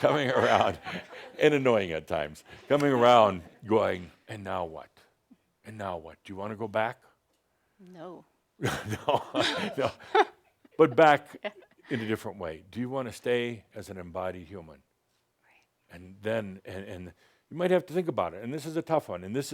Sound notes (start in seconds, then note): 8.6 chuckling